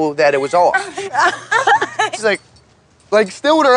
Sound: laughing

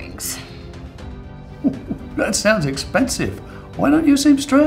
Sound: chuckles

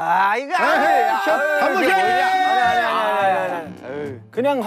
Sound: shouting

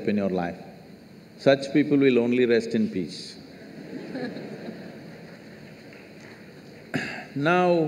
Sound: laughter

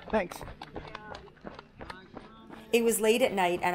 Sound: footsteps crunching

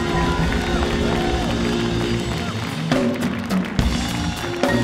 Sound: audience cheering

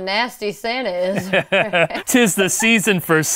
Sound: laughs

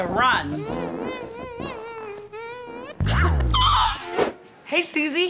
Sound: groaning

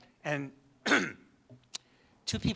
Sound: coughs

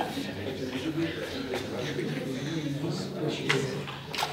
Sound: people chattering

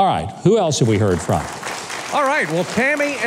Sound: audience clapping

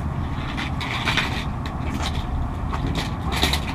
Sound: stroller rattling

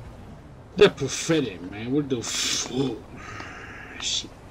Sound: mockingly

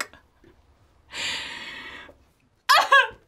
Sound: crying

